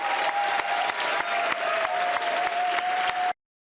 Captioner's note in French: applaudissements